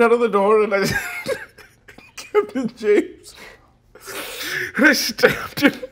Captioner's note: laughing